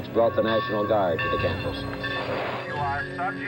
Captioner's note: bell dings